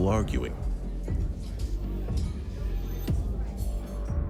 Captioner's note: people chatting